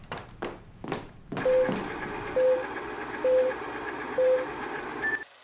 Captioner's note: projector reel spins